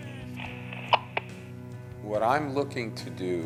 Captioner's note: phone clicks off